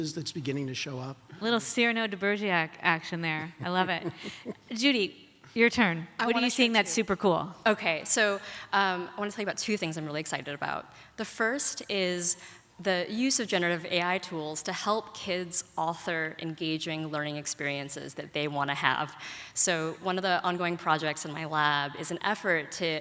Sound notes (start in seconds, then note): 3.6 laughs